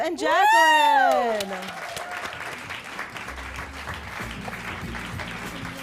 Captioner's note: applause